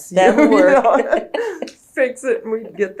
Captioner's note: laughs